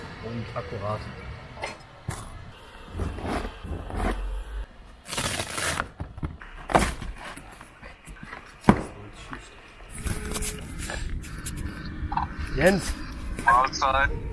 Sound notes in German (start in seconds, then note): 2.9 kratzen; 6.6 krachen; 10.9 klappern